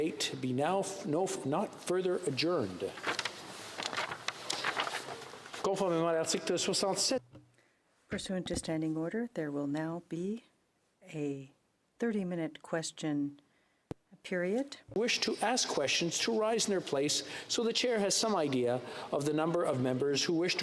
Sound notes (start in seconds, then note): 14.7 speaking French